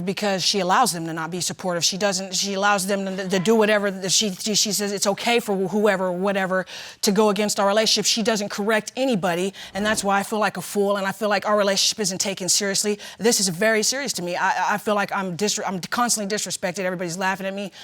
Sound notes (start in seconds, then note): none